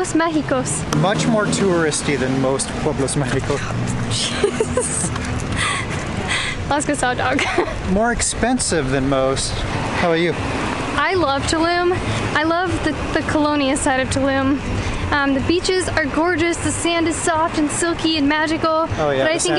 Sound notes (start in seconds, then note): 4.2 laughs